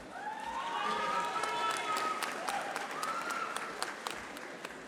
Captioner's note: audience applauding